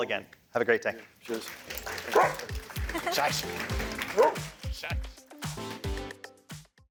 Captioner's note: applause, music